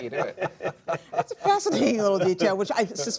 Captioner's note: laughter